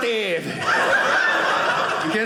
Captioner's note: audience laughing